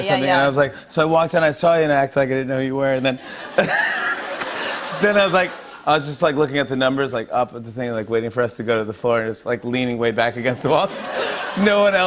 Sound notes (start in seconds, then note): 3.2 laughs; 10.6 laughter